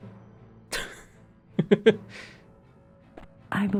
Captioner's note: laughing